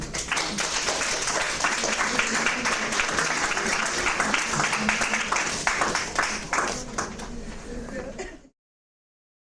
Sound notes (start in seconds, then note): 0.0 audience applauds; 6.8 audience talks